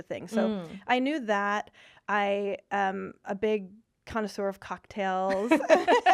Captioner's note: laughing